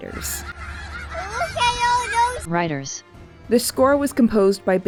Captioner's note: computer voice